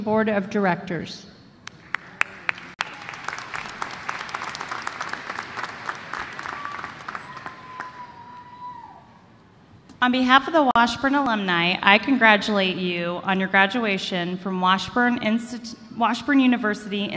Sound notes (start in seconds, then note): 1.6 applause